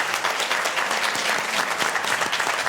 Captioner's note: applause